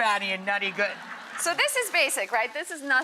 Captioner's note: audience laughs